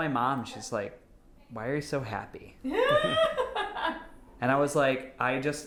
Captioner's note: laughing